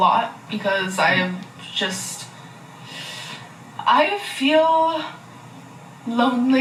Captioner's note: laughs